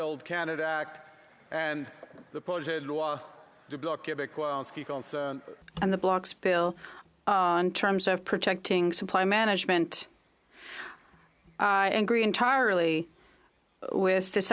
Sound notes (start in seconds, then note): 9.8 speaking French